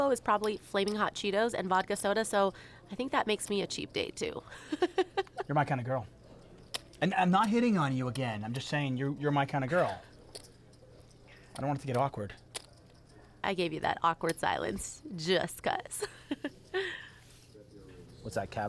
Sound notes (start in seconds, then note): 4.6 laughs